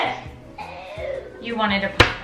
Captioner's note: crying